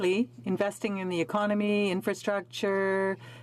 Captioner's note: speaking French